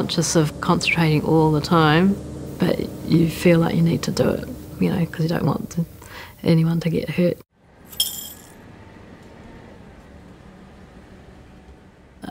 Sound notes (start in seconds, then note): 7.9 coins clinking; 9.5 engine purring